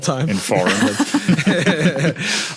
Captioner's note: group chuckling